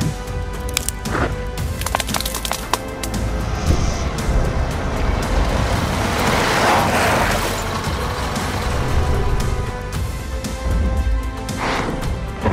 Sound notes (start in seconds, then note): 0.1 bumpy sounds; 4.2 vehicle driving up sounds